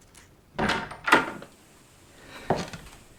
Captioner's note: door clicks